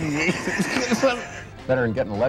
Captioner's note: laughing